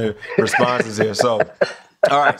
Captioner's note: laughter